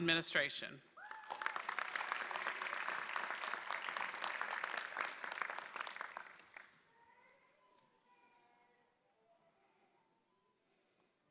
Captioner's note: applause